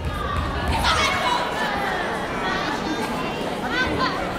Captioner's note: chattering